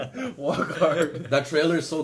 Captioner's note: laughing